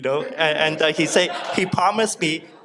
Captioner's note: audience laughs